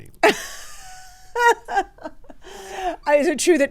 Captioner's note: laughs